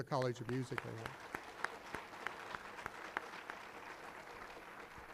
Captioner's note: applause